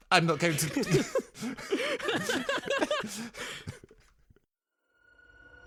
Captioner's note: everyone Laughs